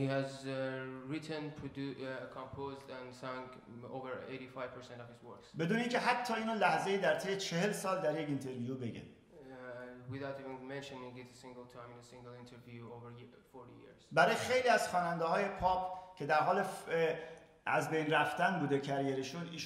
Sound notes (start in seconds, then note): 5.7 speaking in farsi; 13.7 speaking in farsi